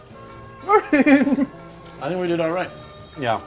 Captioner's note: laughs